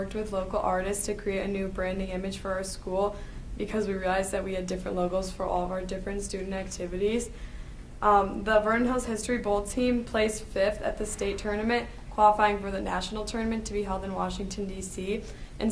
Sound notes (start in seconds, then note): none